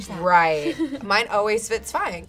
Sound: chuckles

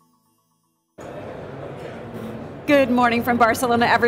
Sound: background indistinct chatter

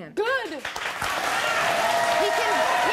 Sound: audience cheers

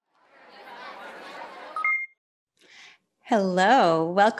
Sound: crowd chatting; electronic beeping

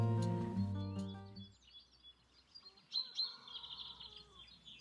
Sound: birds chirp

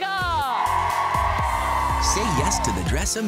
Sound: crowd cheers

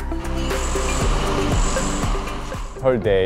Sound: construction site sounds

